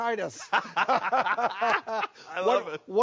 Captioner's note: laughing